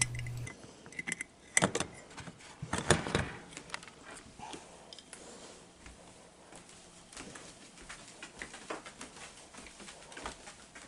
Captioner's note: steps